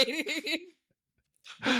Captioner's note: laughing